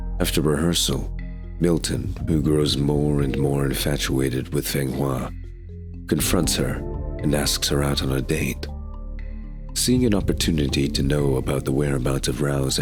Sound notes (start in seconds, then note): none